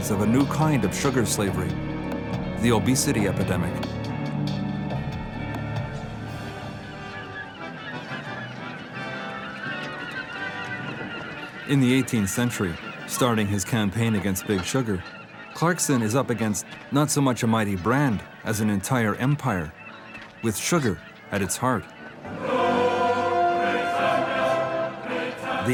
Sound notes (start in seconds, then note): 6.6 birds screeching; 6.6 celebratory music